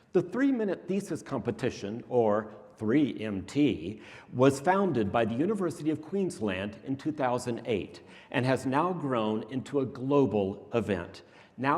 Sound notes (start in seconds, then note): none